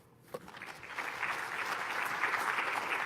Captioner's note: applause